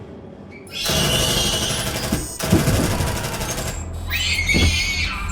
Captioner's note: shrieking sound